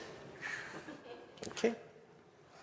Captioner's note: audience member laughing